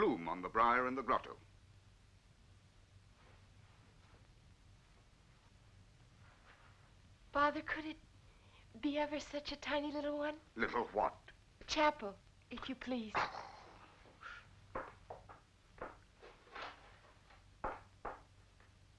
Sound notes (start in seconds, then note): 12.9 priest groaning